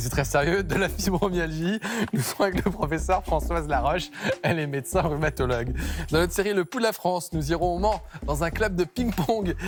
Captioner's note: laughter